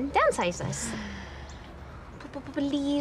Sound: sighs

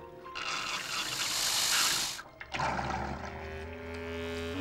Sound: <i> toilet gurgles</i>

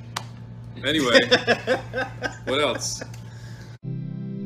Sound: the others break out laughing

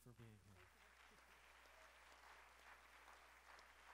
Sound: applause

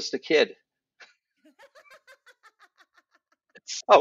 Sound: laughter

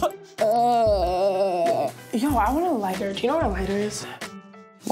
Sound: Tana coughing and groaning

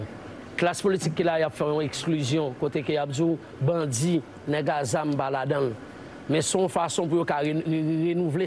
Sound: speaking in a global language

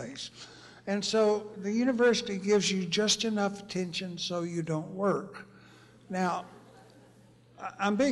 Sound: laughter

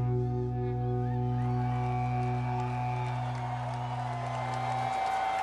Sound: audience cheers and applauds

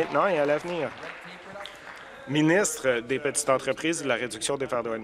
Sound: applause

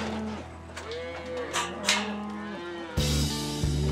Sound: gate clanking; cattle mooing

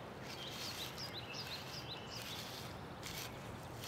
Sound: rustling

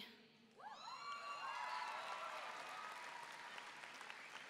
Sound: audience cheering

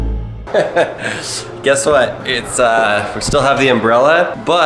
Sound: cheerful music; chuckling

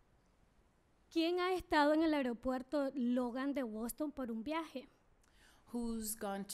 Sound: speaking spanish

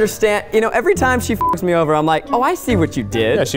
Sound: beep

